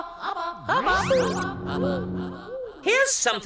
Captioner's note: echoes